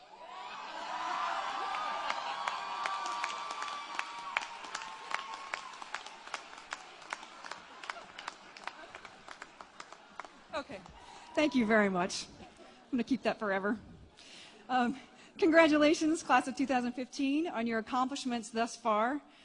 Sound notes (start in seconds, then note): 0.2 applause and Cheering